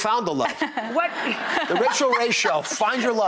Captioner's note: audience laughter